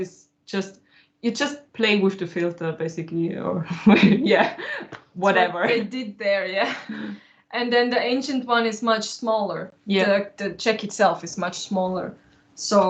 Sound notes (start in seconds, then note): 6.6 laughs